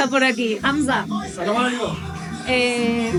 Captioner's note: foreign language 00:40:56